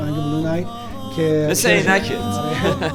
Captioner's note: laughs